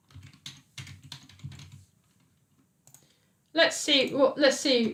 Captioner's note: keyboard clicking